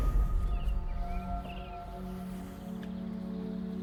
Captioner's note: bird calls